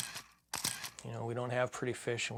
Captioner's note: camera clicks